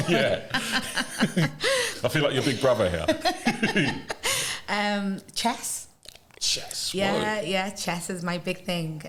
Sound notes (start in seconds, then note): 0.0 laughter